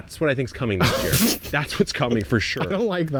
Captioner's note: laughing